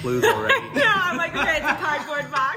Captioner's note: laughter